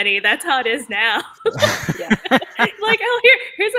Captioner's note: everyone laughs